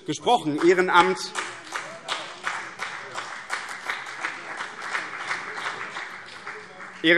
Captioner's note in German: Beifall BÜNDNIS 90/DIE GRÜNEN und vereinzelt CDU